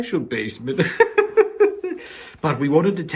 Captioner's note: laughs